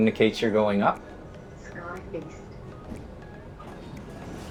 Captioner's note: people chattering